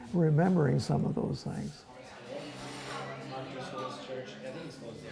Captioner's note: indistinct chatter